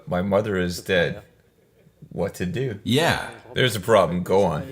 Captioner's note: laughs